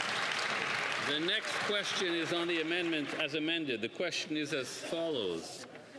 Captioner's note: some Applause